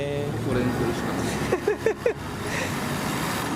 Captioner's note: laughs